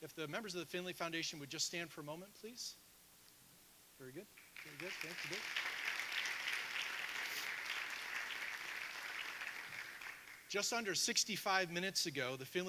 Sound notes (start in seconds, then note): 6.0 audience applauding